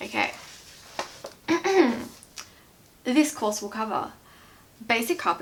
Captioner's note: clears throat